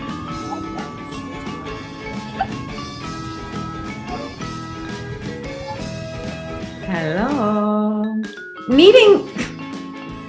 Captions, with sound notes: (girls giggling) Hello, needing, it's not a sentence.